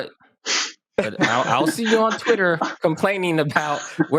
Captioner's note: chuckle